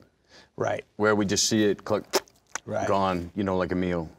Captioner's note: expels air